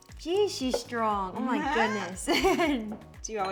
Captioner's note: juice pouring; laughing; chuckling